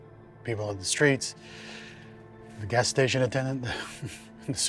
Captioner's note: laughs